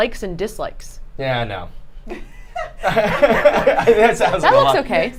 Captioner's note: laughing